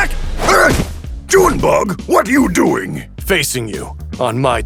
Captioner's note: grunts